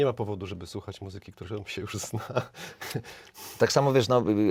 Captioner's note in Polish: śmiech